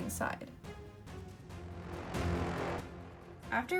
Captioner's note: transition noise